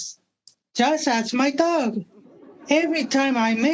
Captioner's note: audience laughing